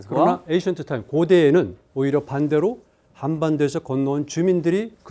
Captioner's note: speaking in Korean